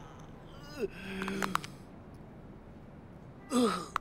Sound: joints cracking

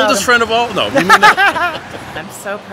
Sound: laughs

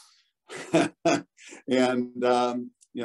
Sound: laughs

